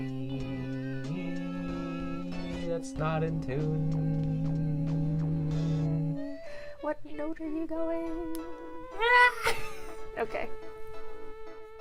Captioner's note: screech